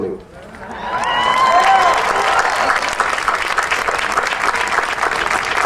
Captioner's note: audience cheering and applauding